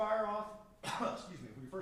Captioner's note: coughs